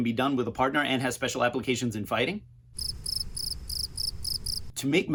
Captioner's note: crickets chirping